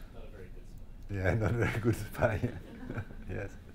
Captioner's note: audience quietly speaking